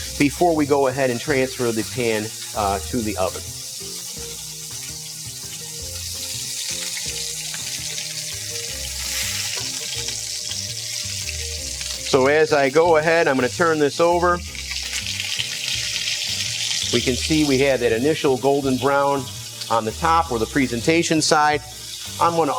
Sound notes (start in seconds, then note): 3.5 bright music; 3.5 chicken sizzling